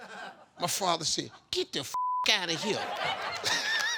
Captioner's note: beep